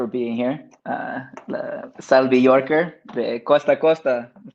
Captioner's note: speaks Spanish